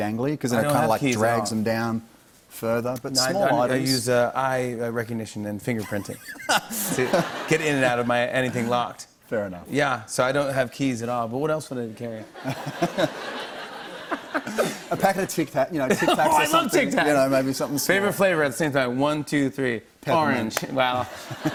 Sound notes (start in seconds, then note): 12.3 laughter; 21.3 laughs